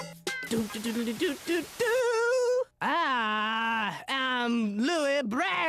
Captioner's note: hums fanfare